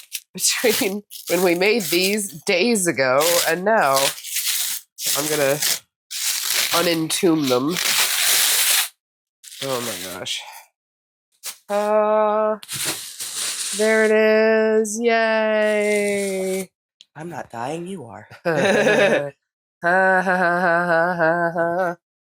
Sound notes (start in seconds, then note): 18.4 both laughing